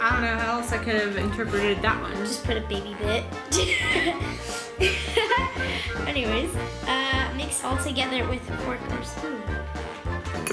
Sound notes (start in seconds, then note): 4.8 laughs